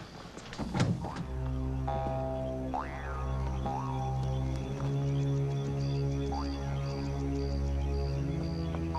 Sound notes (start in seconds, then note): 0.7 tense plunky music; 0.9 crickets chirping